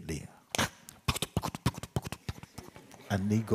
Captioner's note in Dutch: doet geluid paardrijden na